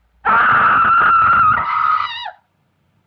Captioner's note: screaming